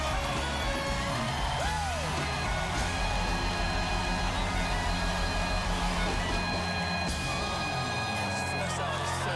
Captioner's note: cheers and applause